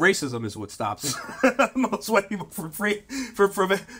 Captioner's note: laughs